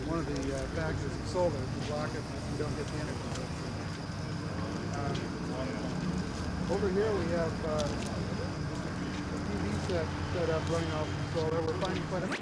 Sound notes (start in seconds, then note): 3.6 sound of water from solar powered fountain